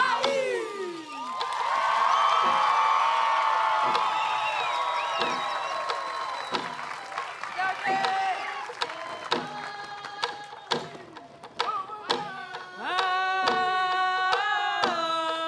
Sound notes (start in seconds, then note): 1.4 cheering, applause; 5.5 drumbeats and singing continue